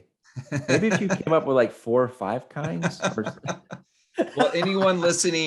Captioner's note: laughs; laughs